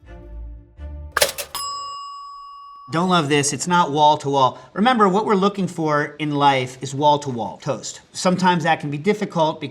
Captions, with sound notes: [bell pings] Don't love this, it's not wall to wall. Remember, what we're looking for in life is wall to wall toast. Sometimes that can be difficult